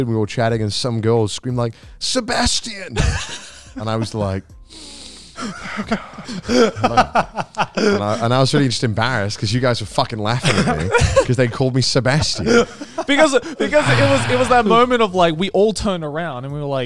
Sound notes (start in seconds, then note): 5.4 laughing